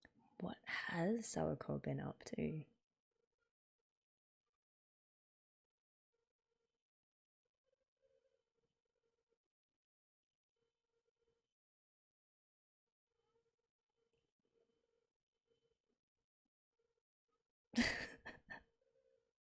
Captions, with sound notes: What has Sawako been up to? [laughs]